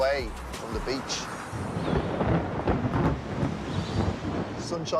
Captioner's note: thunder booms